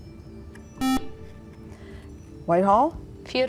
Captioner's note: buzzer